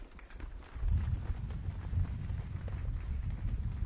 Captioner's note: audience claps